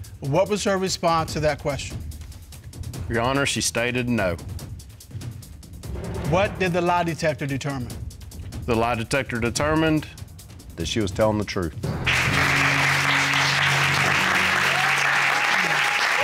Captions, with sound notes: What was her response to that question? Your Honor, she stated no. What did the lie detector determine? The lie detector determined that she was telling the truth. [applause] [audience cheer]